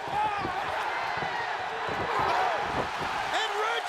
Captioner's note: crowd cheering